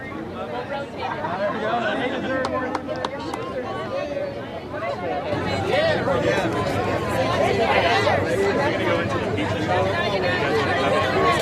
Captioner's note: applause